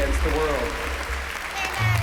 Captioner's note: applause